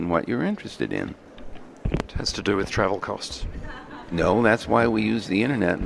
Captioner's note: laughter